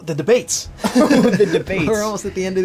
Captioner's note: laugh